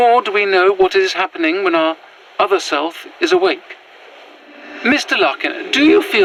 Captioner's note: mina’s footsteps move to join jeremy’s